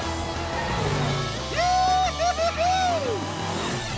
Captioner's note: cheering